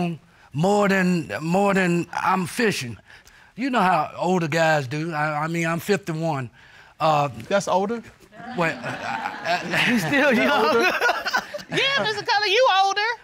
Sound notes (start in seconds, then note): 8.8 stammers; 11.0 laughs